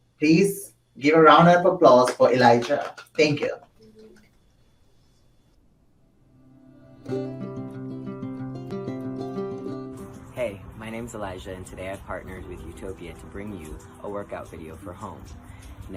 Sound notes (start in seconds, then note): 4.9 group claps; 6.8 uplifting music